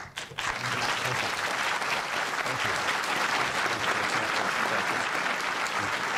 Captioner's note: applause